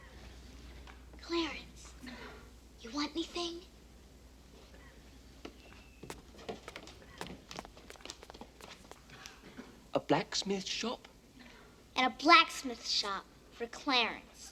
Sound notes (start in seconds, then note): none